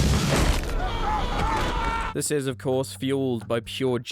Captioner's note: screaming